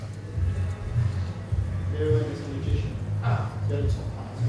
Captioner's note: indistinct chatter